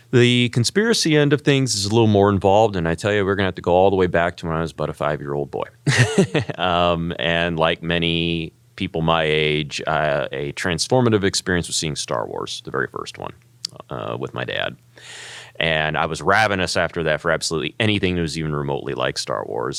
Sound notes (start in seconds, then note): 5.9 laugh